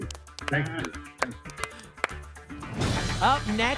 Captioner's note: applause